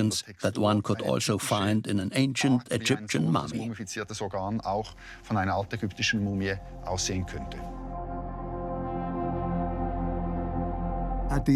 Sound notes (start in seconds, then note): 5.1 speaks German; 8.6 mysterious tones